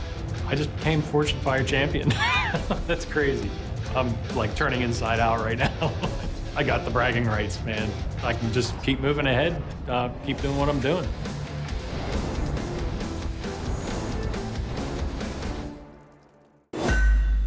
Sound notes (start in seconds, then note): 2.0 laughs; 11.4 heavy metal music